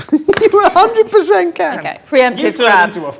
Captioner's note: laughs